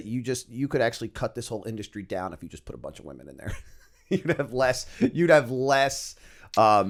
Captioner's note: chuckle